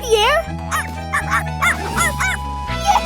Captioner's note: barking